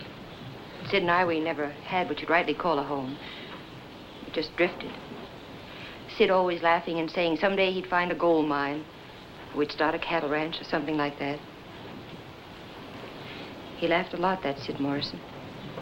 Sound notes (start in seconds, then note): none